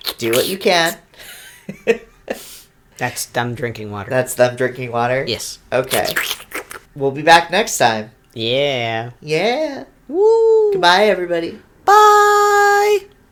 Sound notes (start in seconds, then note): 2.2 laughs; 5.8 slurps